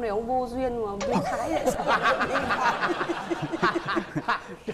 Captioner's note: laughing